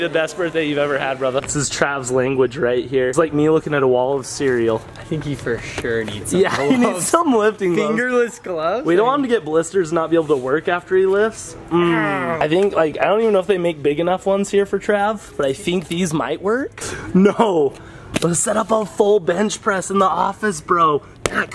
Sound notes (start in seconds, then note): 6.5 laughing; 11.7 grunting